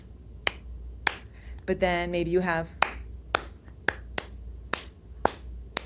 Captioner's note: claps